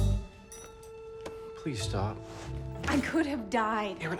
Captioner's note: none